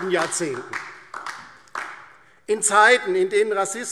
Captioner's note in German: Beifall DIE LINKE